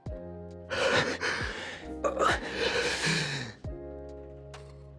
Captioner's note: breathe heavily